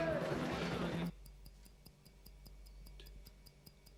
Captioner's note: clock ticking